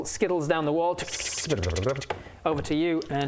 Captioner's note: tchtchtchtchtchtchtchtchtch